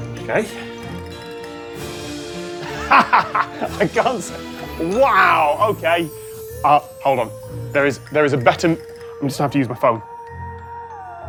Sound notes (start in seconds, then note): 2.6 laughs